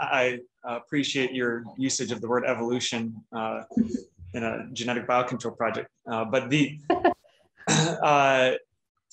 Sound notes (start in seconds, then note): 6.9 chuckles